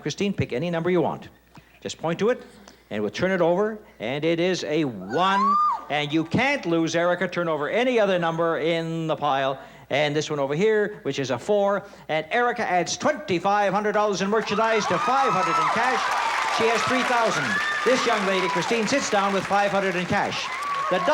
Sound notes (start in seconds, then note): 14.3 applause and cheering